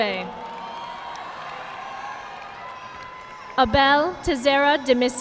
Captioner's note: audience clapping